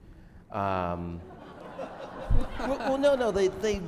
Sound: laughter

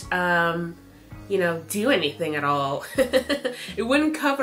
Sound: chuckles

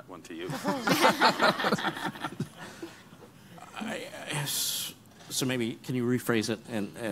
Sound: laughing

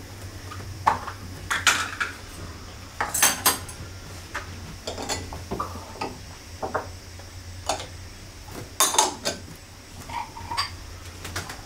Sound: sound of tableware

